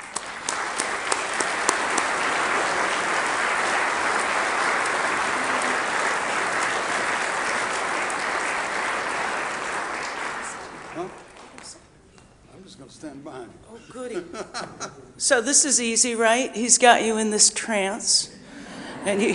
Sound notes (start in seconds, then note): 0.2 audience applauding; 11.0 whispering off microphone